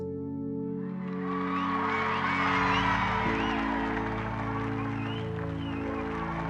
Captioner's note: crowd cheering and applauding